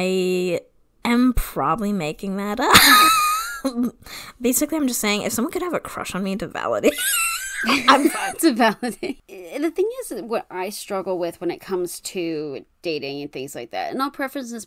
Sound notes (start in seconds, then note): 2.7 laughs; 7.0 laughs; 7.3 wheeze laughs